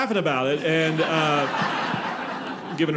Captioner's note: audience laughing